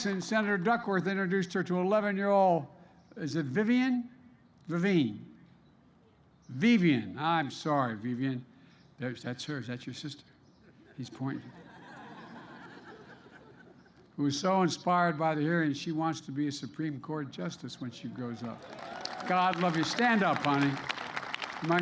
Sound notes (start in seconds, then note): 11.4 laughter; 18.4 applause